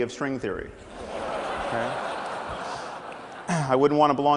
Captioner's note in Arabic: ضحك